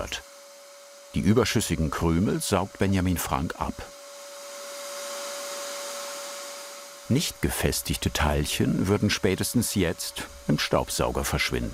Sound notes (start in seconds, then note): 4.8 suction noise